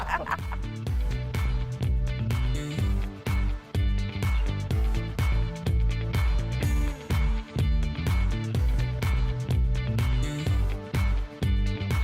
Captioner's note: laughter